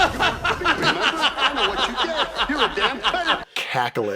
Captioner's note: cackle